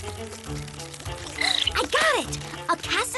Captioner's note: gasps